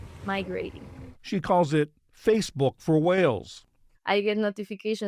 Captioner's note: voice-over